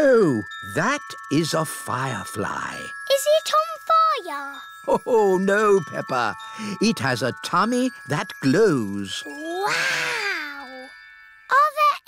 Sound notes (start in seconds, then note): 5.4 laughs